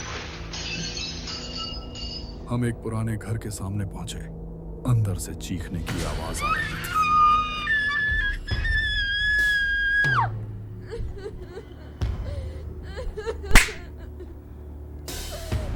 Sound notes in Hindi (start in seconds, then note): 6.3 चीखने की आवाज़; 10.8 रोने की आवाज़